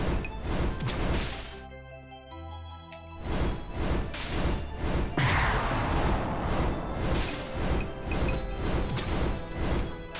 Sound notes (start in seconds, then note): none